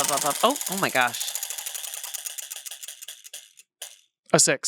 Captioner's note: wheel rattles